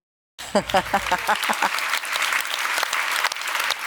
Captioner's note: applause